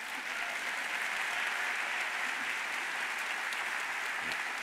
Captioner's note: audience applauds